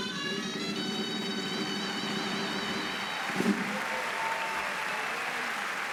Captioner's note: applause